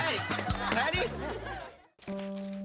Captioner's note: audience laughing; somber techno music